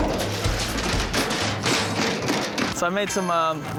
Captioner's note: wheelbarrow clangs